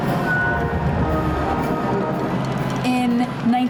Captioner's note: crowd cheering